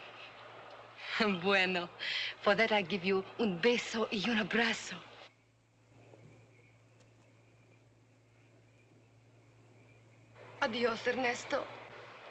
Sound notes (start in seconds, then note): 1.2 in spanish; 10.6 in spanish